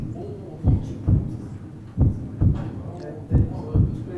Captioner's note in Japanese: 効果音 ドックン・ドックン・ドックン・ドックン・ドックン・ドックン・ドックン・ドックン・ドックン・ドックン・ドックン・ドックン・ドックン